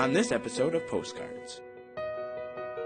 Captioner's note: voiceover